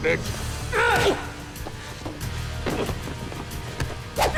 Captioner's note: Remi grunts